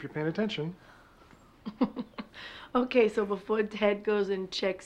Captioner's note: laughs